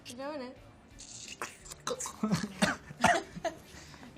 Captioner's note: gurgling